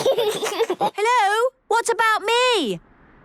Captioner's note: giggles